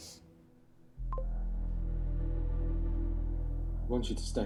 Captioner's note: computer bleeps